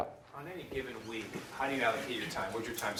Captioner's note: voiceover